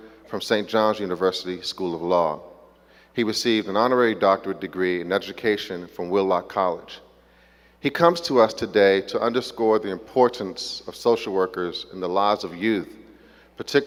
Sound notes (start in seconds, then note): none